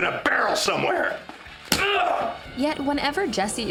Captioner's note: grunts